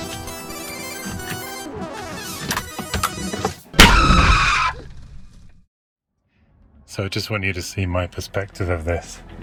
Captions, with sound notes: (high pitch male screaming) So just want you to see my perspective of this,